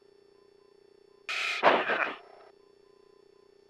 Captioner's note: laughs